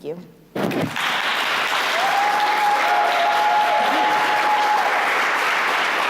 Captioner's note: applause